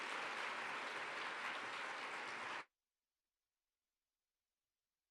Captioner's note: applause